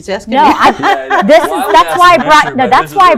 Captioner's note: all laughs